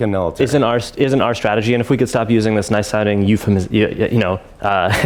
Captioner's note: laughs